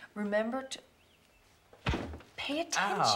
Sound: thunk

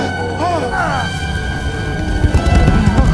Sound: groans

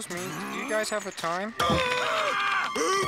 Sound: screaming

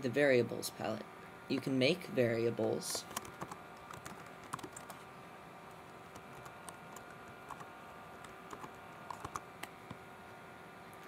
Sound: typing

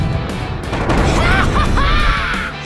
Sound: laughs

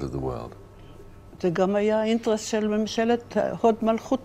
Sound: speaking hebrew

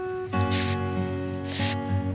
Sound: sniff

